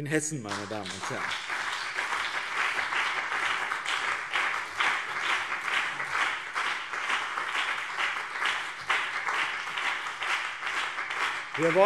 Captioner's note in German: Beifall BÜNDNIS 90/DIE GRÜNEN und CDU